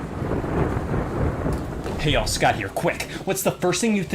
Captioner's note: thunder sounds